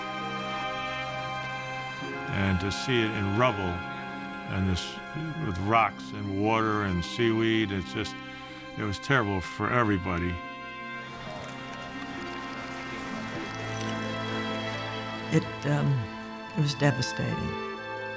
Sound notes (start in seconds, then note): 10.6 camera shutters clicking